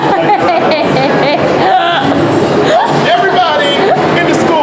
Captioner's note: laughs